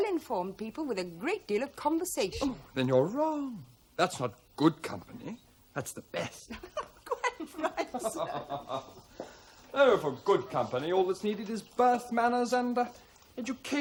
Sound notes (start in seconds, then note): 6.2 all chuckle